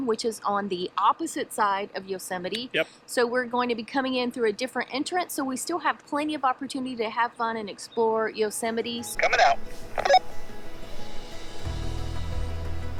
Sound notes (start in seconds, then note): 9.1 radio chirps; 9.2 announcing on radio